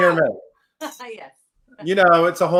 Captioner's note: laughs